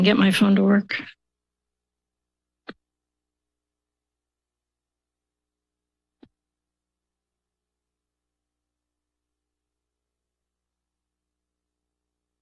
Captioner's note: silence